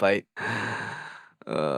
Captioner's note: sigh